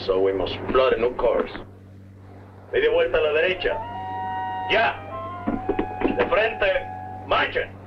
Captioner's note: Colonel Cabeza speaking in Spanish